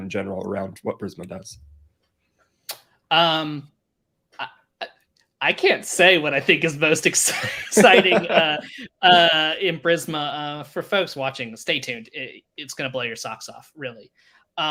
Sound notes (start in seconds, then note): 7.2 both laughing